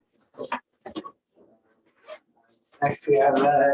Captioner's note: background chatter